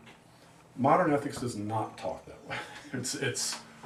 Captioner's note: laughs